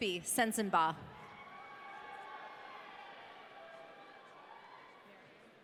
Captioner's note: audience cheering